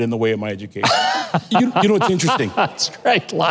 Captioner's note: laughing